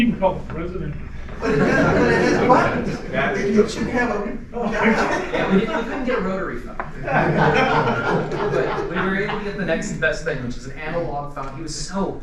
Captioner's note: laughter